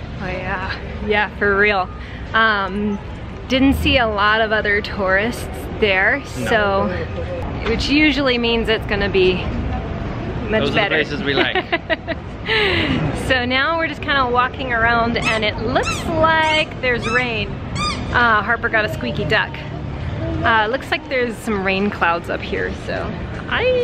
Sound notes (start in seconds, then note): 17.6 squeaking sound